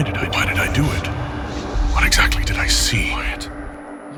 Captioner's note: sounds of heartbeat and ears ringing